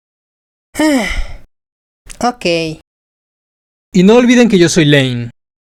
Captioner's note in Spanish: suspiro